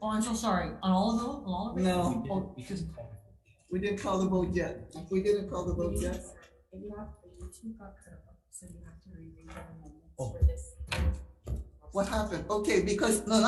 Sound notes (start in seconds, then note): 2.9 faintly speaking